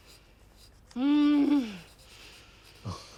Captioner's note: grunting